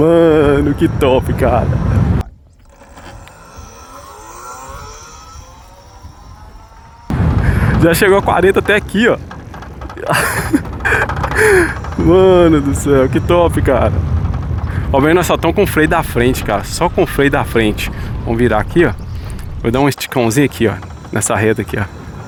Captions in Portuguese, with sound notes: Mano, que top, cara. [gemido][grito] Já chegou a 40 até aqui, ó. [risadas] Mano, do céu, que top, cara. Ó, vem, nós só estamos com freio da frente, cara. Só com freio da frente. Vamos virar aqui, ó. Vou dar um esticãozinho aqui, ó, nessa reta aqui, ó.